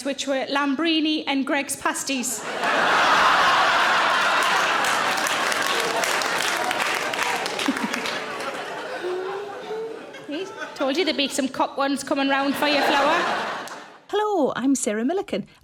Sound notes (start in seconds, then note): 2.4 audience Laughs And Claps